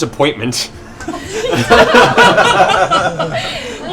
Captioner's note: laughter